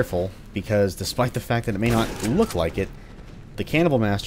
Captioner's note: boom